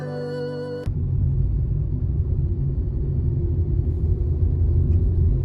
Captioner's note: car engine revving